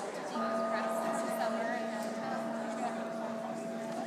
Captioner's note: sound bowl ringing